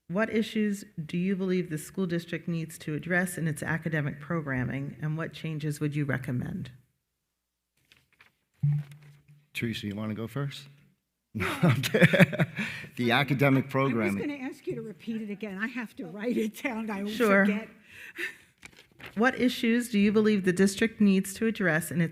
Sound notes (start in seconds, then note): 11.4 laughs